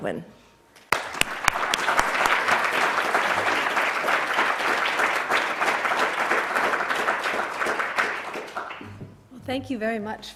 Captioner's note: applause